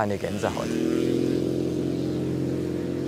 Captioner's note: engine hum